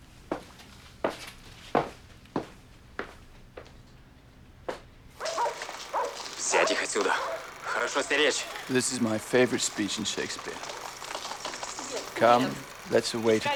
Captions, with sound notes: (film reel clicking) (speaking foreign language) This is my favourite speech in Shakespeare. "Come, let's away to prison.